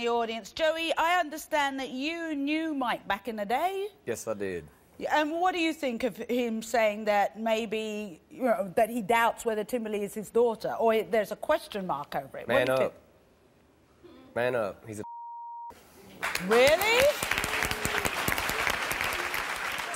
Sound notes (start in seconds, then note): 15.0 beep; 16.1 audience applause